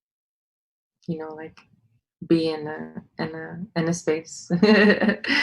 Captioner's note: laughs